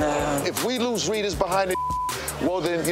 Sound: beep

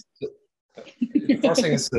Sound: laughs

